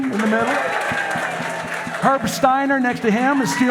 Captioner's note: audience applauding; audience cheering